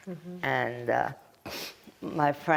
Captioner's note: wiping nose